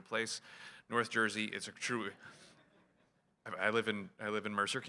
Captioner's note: laughter